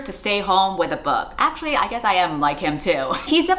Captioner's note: laughs